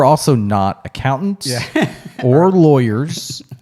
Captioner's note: laughs